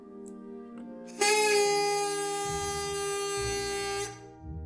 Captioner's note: party horn sound